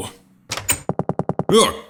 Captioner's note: door opens